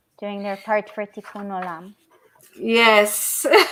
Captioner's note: speaking Hebrew